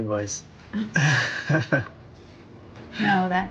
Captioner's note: chuckling